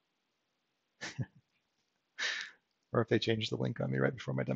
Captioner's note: chuckles